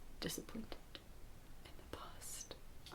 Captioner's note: whispering